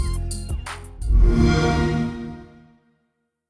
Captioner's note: xbox sound